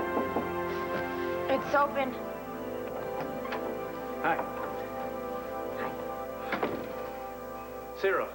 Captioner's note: knock on door